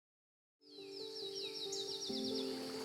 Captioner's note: birds chirping